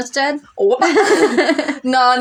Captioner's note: laugh